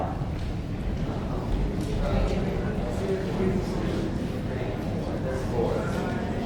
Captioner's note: audience counting and chattering